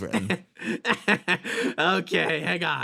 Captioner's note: Etete Laugh